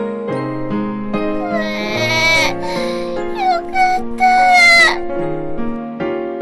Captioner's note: yawning